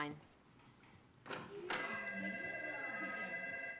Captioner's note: telephone ringing